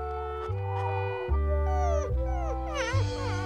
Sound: puppy whimpers

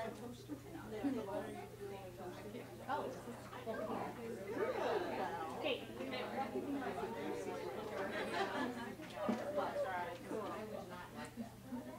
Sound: chatter

